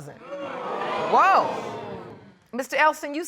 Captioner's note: audience exclaiming